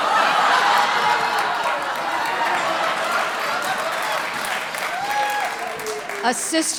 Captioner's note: audience laughter